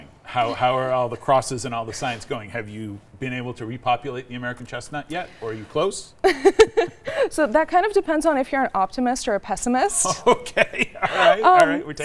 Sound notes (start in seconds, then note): 6.2 laughing